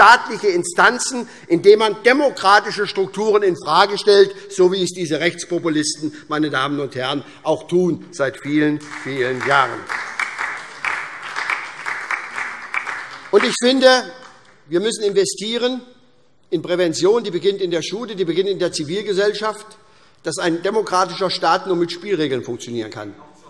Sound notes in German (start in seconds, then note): 8.7 Beifall